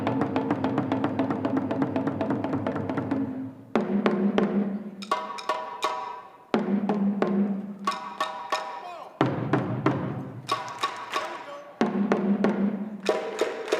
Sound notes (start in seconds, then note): 0.0 rhythmic drumming; 3.8 shouting; 6.7 rhythmic drumming continues